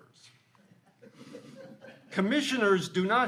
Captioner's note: all laughing